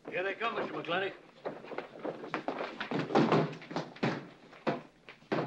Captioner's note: bodies bustling through the door